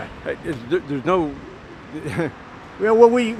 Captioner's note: chuckling